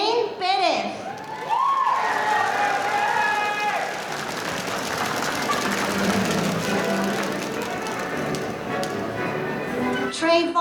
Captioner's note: applause